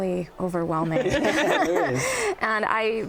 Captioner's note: laughter